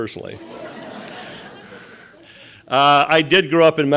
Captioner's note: audience laughing